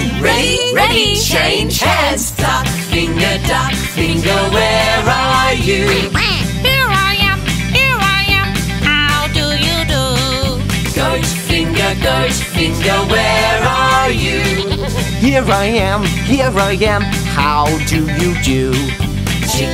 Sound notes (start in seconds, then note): 5.8 duck quacking; 14.6 goat bleating